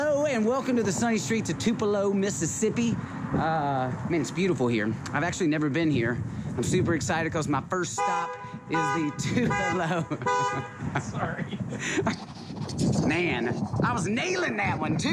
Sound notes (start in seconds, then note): 9.6 car horn honking; 13.7 laughs